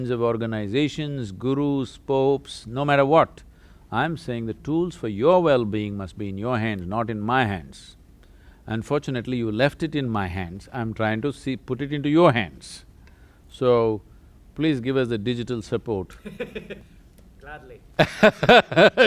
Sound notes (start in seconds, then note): 16.2 laughs